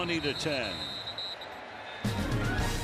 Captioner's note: whistle